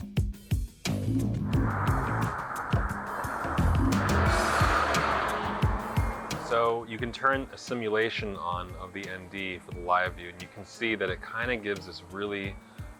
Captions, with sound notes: [cars passing by] So you can turn a simulation on the ND, for the live view. And you can see that it kind of gives this really